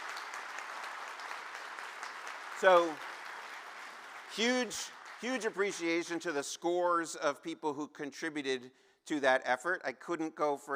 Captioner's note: cheers and applause